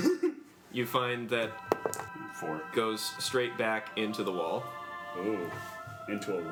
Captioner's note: rolls dice